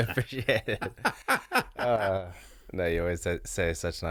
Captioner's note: both laughing